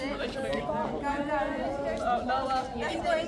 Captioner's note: crowd chattering